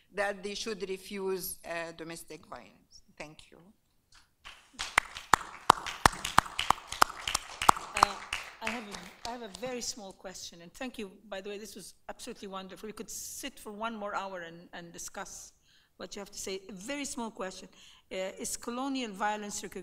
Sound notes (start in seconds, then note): 4.4 applauding